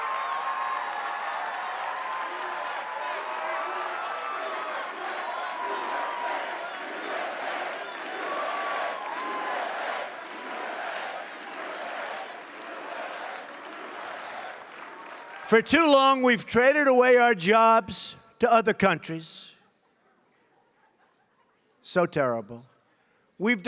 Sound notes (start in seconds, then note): 2.3 applause